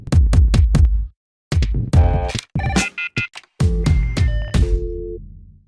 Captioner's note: bright music; phone ringing